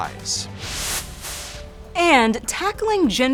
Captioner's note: air whooshes